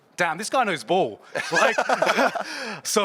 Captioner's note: both laughing